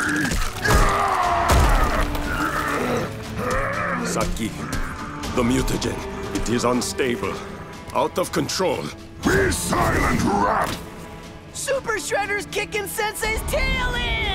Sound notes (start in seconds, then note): 0.0 groaning